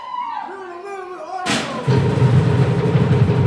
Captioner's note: non-english speech